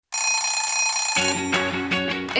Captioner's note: alarm clock ringing; upbeat music